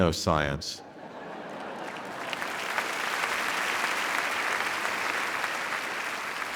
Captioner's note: audience laughing; audience applauding